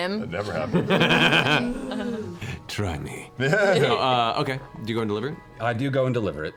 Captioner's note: laughs